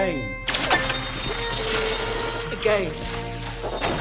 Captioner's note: currents buzzing; machine clanks; currents buzzing